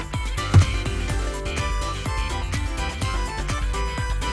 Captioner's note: thud!!